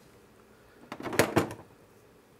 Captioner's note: clattering